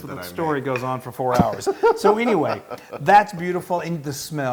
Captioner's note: laugh